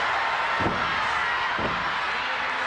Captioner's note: knees thud; crowd cheering